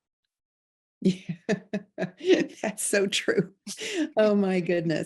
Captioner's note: chuckling